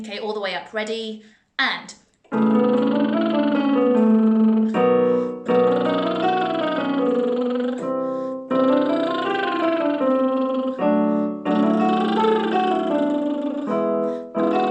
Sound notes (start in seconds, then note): 2.3 lip trill scale